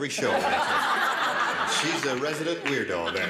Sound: laughing

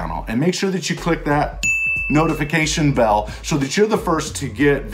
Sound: dings

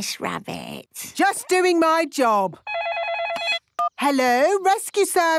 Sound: phone ringing

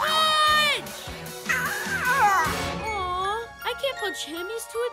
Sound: cooing

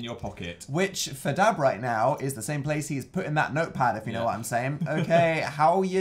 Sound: laughs

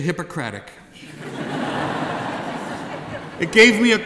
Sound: laughing

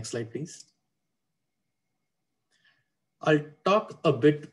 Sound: clicking

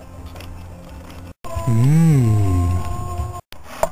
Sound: mmmh

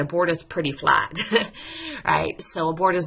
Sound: narrator laughs

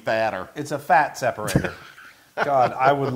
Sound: laugh

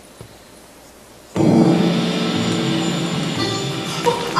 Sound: gong

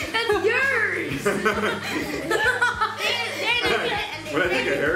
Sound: laughing

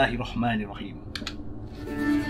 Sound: click

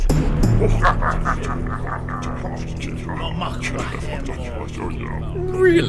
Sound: Klingon muttering and laughter

